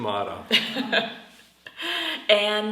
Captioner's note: laughs